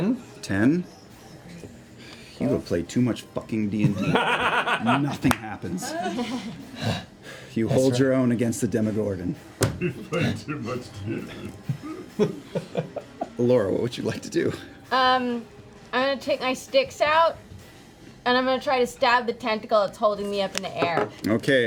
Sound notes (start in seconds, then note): 9.7 laughs